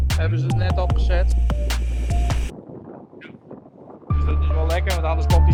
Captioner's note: speaks in Dutch